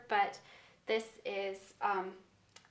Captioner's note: none